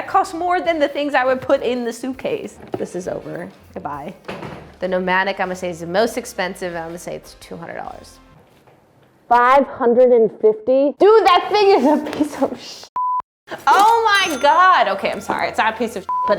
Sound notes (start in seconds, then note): 13.0 beep; 16.0 beep